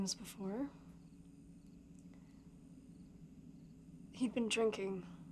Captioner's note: crickets chirping; tense music